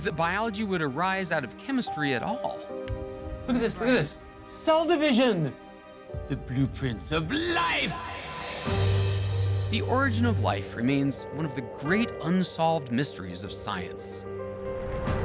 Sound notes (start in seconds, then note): 5.9 dramatic voice